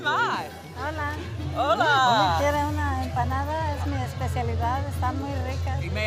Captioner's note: speaking in foreign language